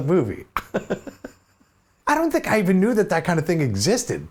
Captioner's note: laughs